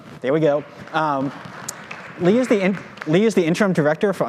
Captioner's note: audience applauding